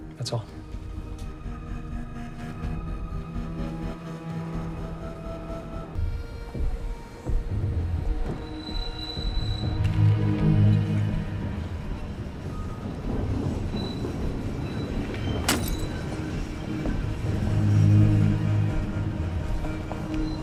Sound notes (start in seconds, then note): 0.4 moody music; 8.8 train screeching; 15.4 bottle smashes